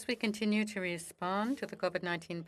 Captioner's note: speaking FRENCH